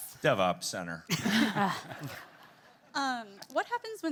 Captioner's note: group laughing